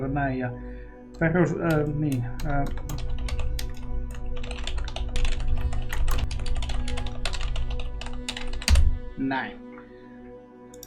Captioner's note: intense typing